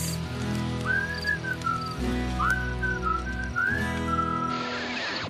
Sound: whistling

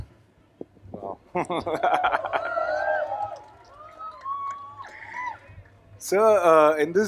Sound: laughs; cheering

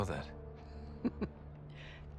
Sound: laughs

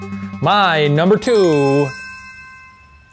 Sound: bell ringing

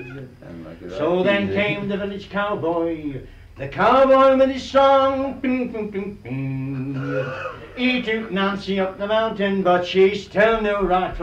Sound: makes Guitar noises

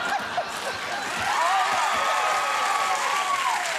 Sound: laughter

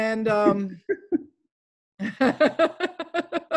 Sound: laughs

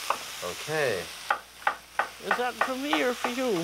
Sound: knife chopping

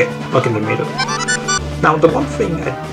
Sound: lucky sfx

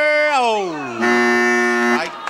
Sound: buzzer blaring

